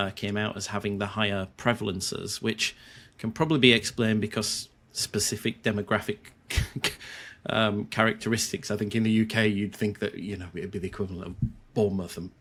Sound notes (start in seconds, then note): 6.5 chuckles